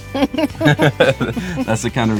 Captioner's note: both laugh